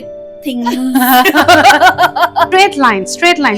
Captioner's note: laughing together